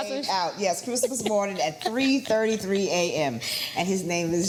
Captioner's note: laughs